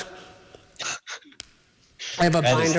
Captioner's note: laughs